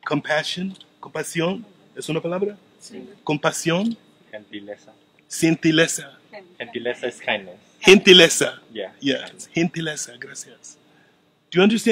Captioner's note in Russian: говорят по испански